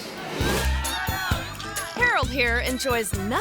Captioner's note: audience chattering